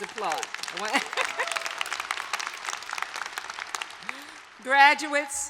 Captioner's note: applause